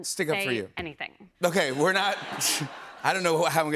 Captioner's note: laughter